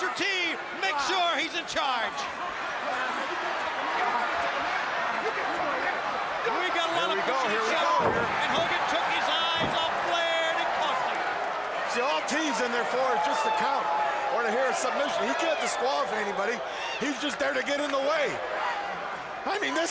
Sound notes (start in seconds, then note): 2.3 crowd cheering; 3.1 crowd chatter